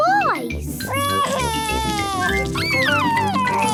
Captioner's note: crying